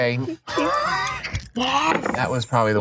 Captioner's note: laughs